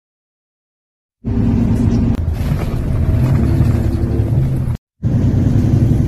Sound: car noises

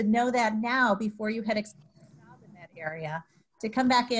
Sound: audio cuts out

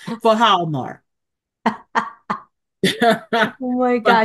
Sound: laughs

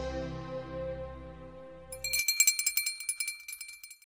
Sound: bell ringing

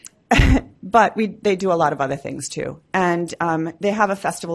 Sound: laughs

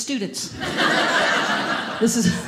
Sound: audience laughing

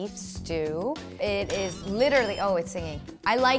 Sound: Instant Pot beeps

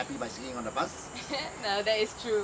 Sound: laugh

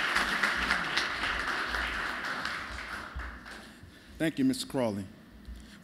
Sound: applause

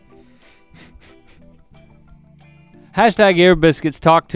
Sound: Rhett chuckles

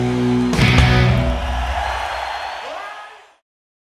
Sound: audience cheering

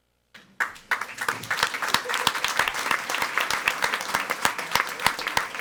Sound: audience applauding

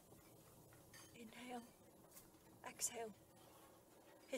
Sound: plates clattering in the background

